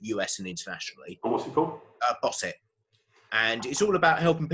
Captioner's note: murmurs